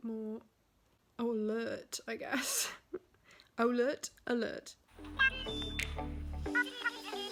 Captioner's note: music and game chat noise; laughs